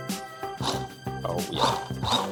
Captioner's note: blender buzzes